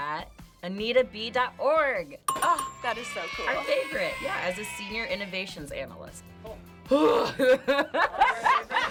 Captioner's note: laughter